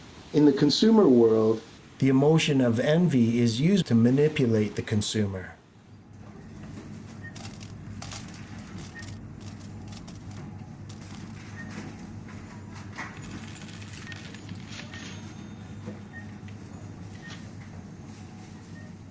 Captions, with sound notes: In the consumer world, the emotion of envy is used to manipulate the consumer. (Sound of shopping and money placed in registers)